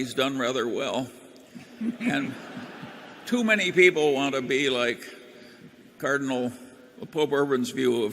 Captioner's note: laughter